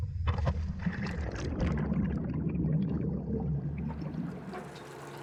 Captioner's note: bubbles splash